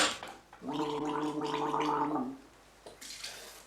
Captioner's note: gargling